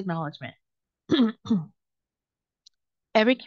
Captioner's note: clears throat